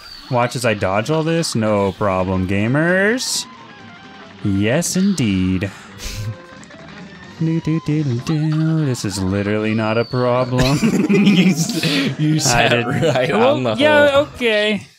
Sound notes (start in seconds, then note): 6.4 snicker; 7.7 sings; 10.5 both laugh